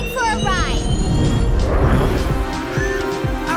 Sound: whirring

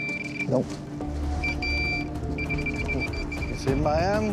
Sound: rapid beeping

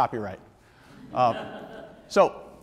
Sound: audience members laugh

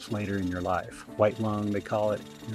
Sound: drilling

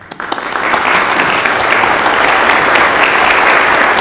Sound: audience applauding

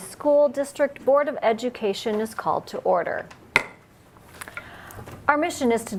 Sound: loud knock

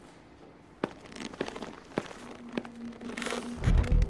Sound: footsteps

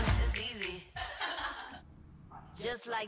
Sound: laughs

